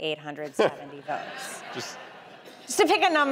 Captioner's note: audience laughing